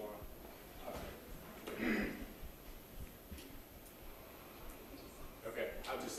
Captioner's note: coughs